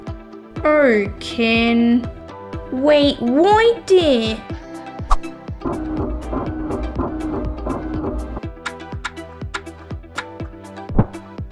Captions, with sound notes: Oh Ken... Wait right there! (Printing) (Snip! Snip! Snip!)